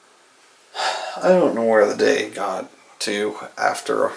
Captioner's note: sighs